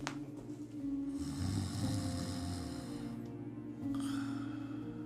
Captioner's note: Ron snoring